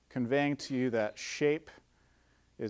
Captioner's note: none